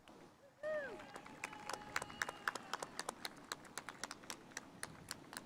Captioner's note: spectators applauding